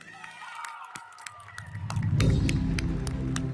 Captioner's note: audience cheering; audience applauding; uplifting music